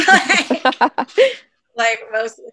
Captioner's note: laughter